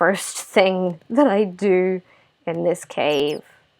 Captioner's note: laugh